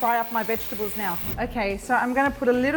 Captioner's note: whooshing